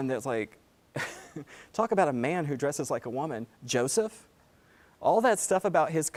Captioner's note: laugh